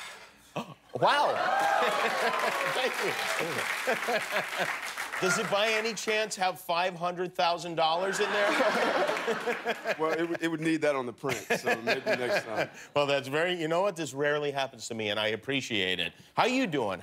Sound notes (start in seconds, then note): 6.4 cheers and applause; 10.8 laughter